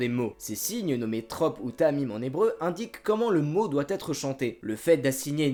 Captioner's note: in Hebrew